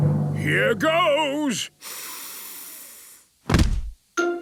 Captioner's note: dramatic drumming music; sniffs